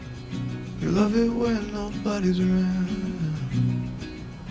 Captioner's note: indistinct chatter